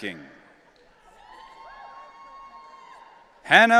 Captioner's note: audience cheering